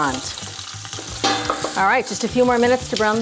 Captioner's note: metal clanging